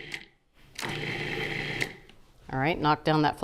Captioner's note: food processor whirring